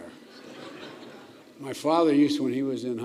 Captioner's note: laughter